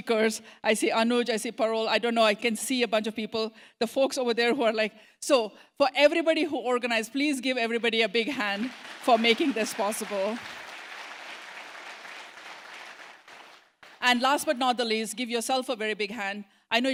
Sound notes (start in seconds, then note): 10.4 applause